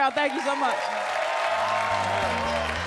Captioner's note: audience applauds; audience cheers; upbeat music